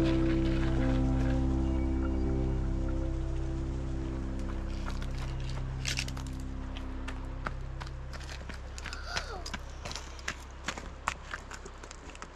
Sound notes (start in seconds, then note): 8.2 footsteps